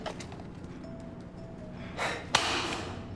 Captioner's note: sigh